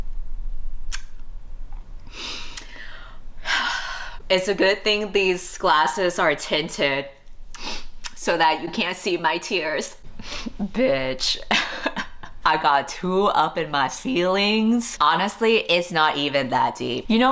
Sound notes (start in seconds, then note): 3.4 sighs; 10.3 laughs